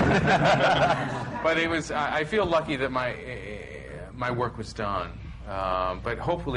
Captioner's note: laughter